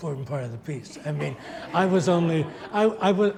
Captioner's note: audience laughs